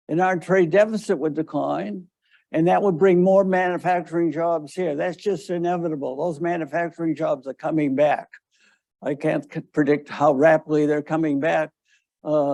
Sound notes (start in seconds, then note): none